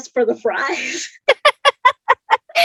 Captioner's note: laughs